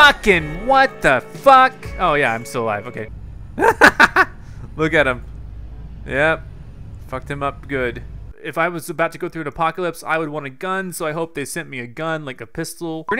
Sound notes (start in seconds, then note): 3.6 laughs